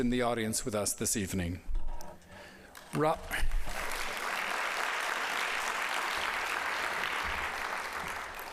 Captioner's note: applause